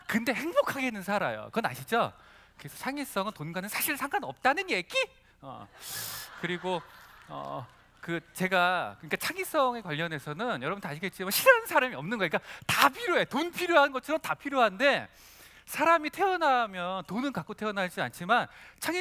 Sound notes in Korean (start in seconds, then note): 5.7 웃음